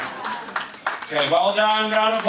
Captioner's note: audience applauding